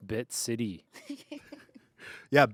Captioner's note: laughs